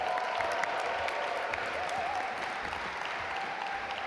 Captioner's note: audience applaud